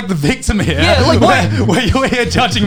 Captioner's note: laughing